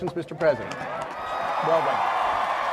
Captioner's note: cheering